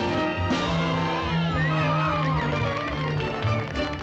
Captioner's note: cheering and applause